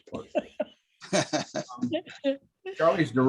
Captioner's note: laughter